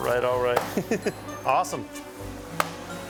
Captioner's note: chuckles